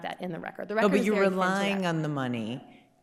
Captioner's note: faintly speaks